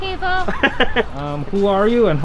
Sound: man laughing

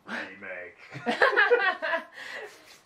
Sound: laugh

